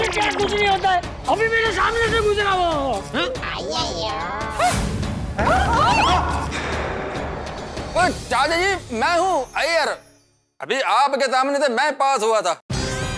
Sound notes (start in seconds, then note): 5.5 screams